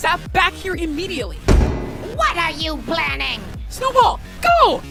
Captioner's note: door slams